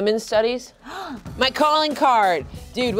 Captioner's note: gasping